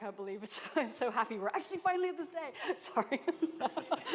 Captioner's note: laughter